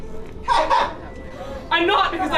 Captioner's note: laughter